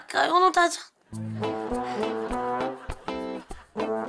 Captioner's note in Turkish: Gülme efekti